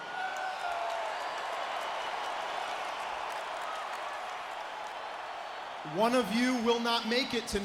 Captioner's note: crowd cheering